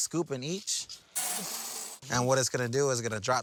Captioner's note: beans clinking